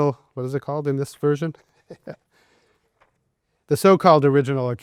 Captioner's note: chuckles